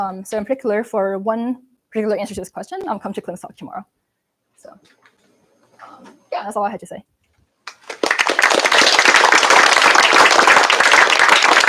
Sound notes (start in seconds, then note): 7.6 applause